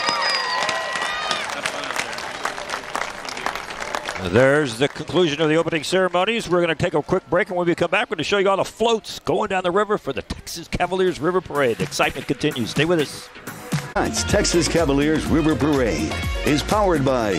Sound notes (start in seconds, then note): 3.5 applause